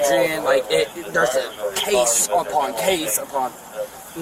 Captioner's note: radio chatter